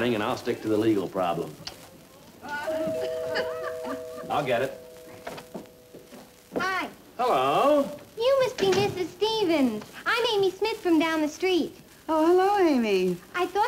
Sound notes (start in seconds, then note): 2.6 door bell rings